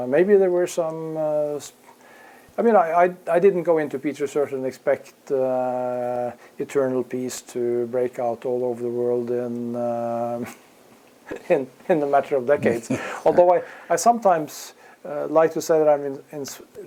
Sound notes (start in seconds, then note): 12.6 laugh